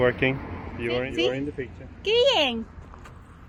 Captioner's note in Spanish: en español